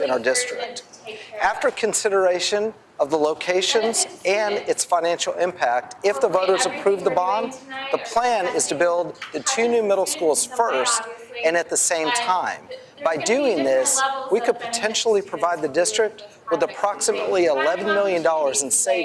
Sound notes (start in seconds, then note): none